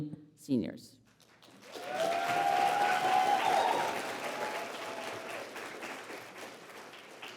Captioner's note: applause